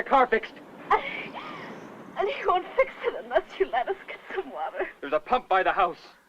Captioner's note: sobbing